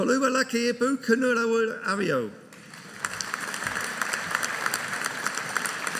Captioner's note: audience applauding